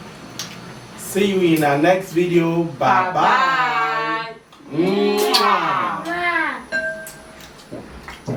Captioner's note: kisses